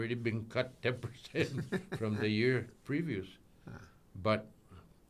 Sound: laughing

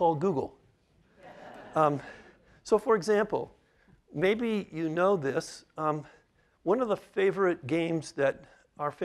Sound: laughter

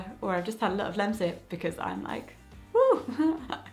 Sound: laughing

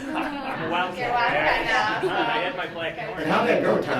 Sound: giggles

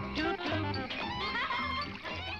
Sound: toys laughing

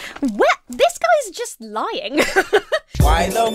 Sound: laughs

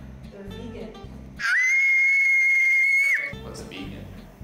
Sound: screaming

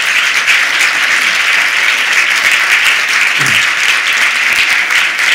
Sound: applause

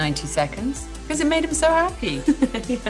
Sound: laughs

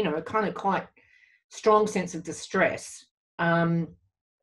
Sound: none

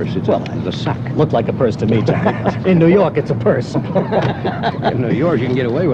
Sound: laughter

